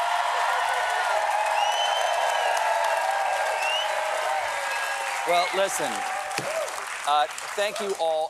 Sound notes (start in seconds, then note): 4.8 cheers and applause